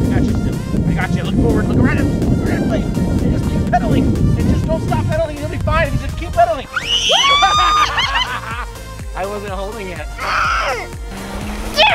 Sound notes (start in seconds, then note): 6.7 screams; 7.1 laughs; 10.3 growls